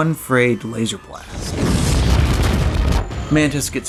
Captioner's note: explosions